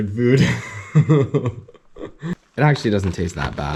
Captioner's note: laughs